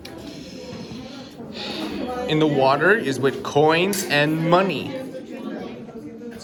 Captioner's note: exhales